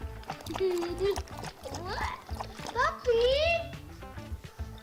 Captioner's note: laughs